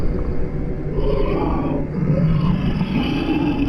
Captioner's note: low hissing, demonic voices